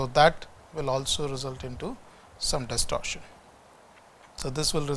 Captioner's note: camera tilting